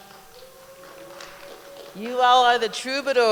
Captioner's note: applause